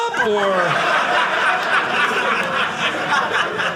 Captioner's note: audience laughing